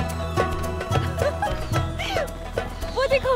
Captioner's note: Amal laughing